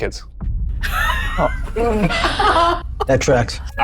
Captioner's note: group laughs